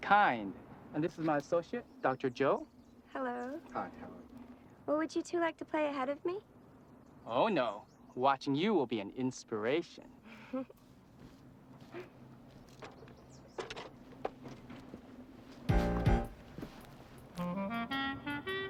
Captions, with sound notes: And this is my associate, Dr. Joe. - Hello. - Hi, how are you? - Well would you two like to play ahead of me? - Oh no, watching you will be an inspiration. (giggling) (swanky music)